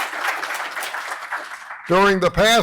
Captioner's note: applause